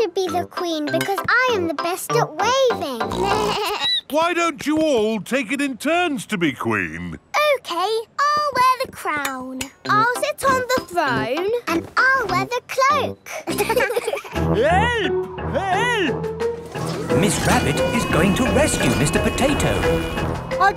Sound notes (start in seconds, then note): 3.0 snorts; 3.7 bleats; 13.3 laughing